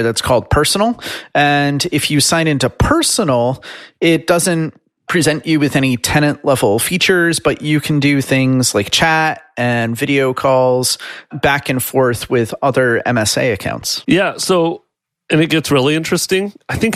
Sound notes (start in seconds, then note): none